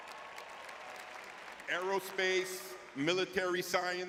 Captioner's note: audience cheering